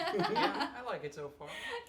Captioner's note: laugh